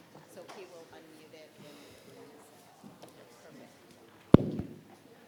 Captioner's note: speaking faintly